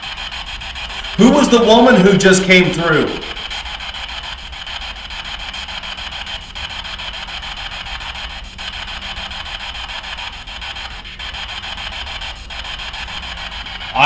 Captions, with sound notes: - Who was the woman who just came through? (static buzzing)